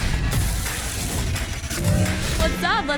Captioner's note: car engine roaring